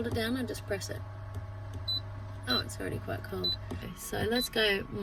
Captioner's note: high-pitched beeps; more high-pitched beeps